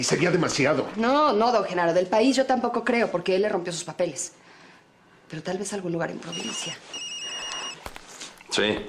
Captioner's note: phone ringing